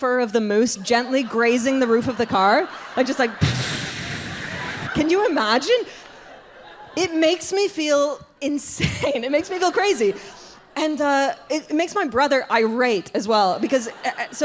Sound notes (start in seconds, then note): 3.4 exhales softly